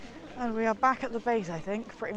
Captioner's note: none